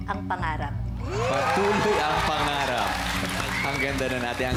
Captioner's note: audience cheering, clapping